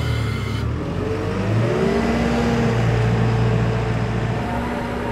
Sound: telehandler engine revving

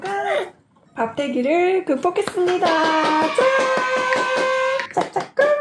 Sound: applause

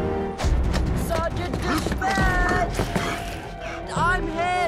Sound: panting

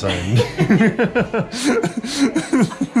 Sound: laughter

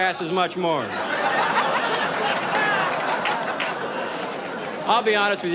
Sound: audience laughs

